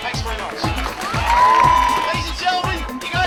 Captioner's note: audience cheering